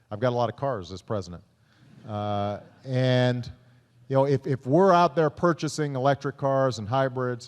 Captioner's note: laughter